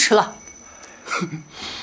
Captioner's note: scoffs